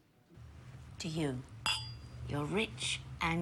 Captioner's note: glasses clinking